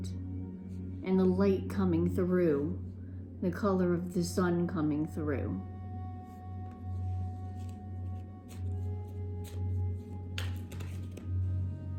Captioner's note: cards shuffling